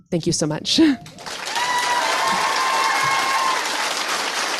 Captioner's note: applause